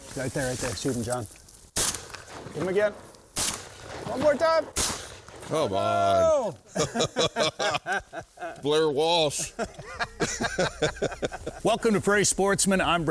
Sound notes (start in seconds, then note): 3.3 gun fires; 6.6 both laughing